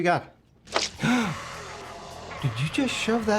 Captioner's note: gasping